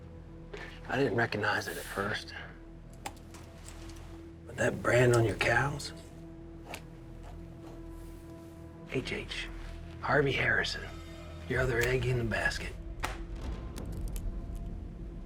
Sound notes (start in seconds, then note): 0.0 tense music; 5.7 writing; 12.5 drops pad, pen rolls